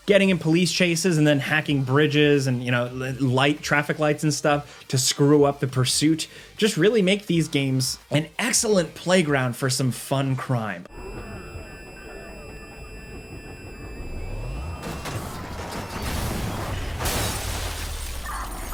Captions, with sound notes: getting in police chases and then hacking bridges and, you know, traffic lights and stuff to screw up the pursuit just really make these games an excellent playground for some fun crime. (audio whines) (car crashes)